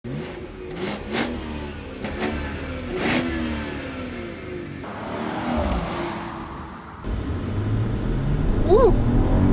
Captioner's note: BMW 540i revs